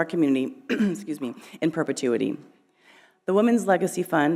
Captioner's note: clearing throat